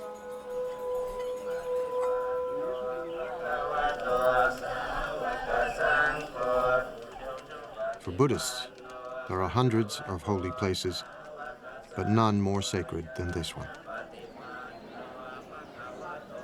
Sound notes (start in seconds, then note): 1.6 all chanting